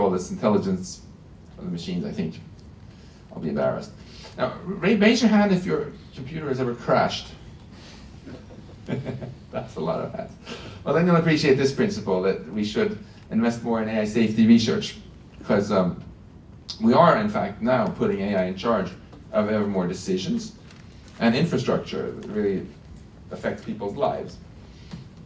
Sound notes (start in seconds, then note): 8.2 laughs